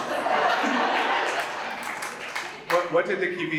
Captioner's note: audience laughs and applauds